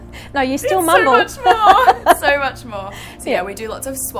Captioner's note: chuckling; both chuckling